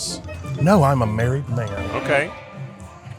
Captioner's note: chuckles